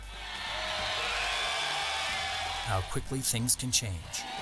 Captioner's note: students cheering